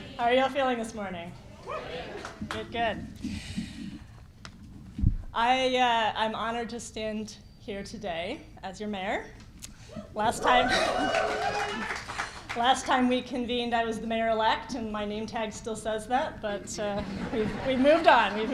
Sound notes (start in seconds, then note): 1.6 shouts and applause; 10.3 cheering and laughter